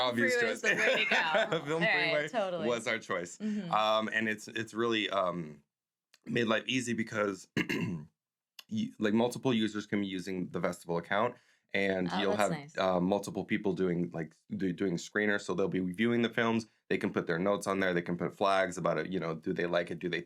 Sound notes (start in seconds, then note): 0.6 laughs; 7.5 coughs